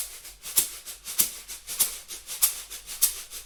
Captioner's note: soft shaking sounds